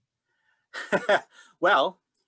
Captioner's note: chuckling